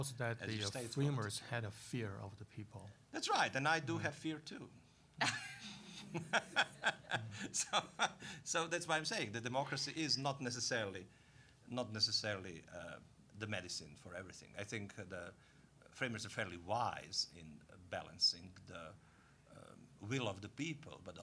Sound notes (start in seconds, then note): 5.2 all laughing